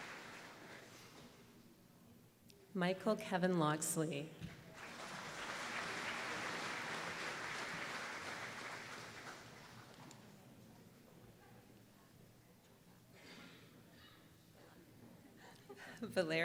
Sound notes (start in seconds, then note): 0.0 applause; 4.7 applause